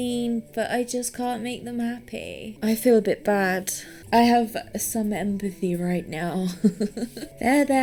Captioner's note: giggles